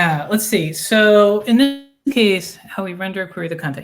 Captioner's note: voice distorting